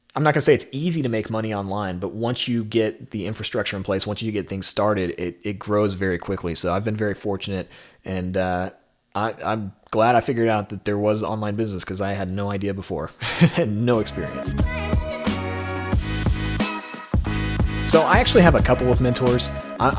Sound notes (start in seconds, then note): 13.2 laughs; 13.8 upbeat music